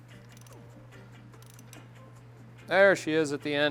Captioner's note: clicking